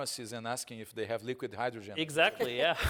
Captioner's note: laughing